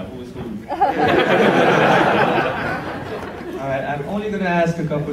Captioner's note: audience laughs